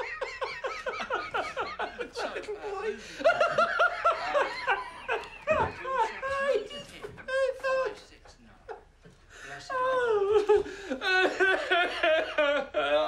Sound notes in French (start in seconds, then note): 3.0 rire